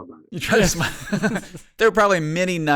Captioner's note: laughing